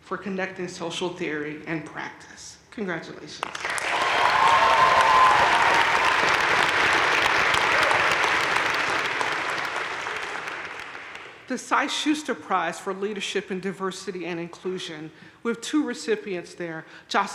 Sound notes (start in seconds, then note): 3.5 crowd cheering and applauding